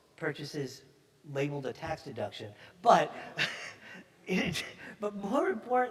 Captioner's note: chuckles